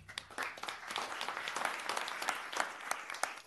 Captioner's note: applause